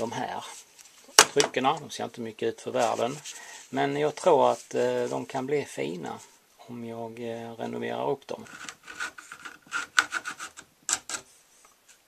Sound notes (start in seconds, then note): 8.4 scraping sound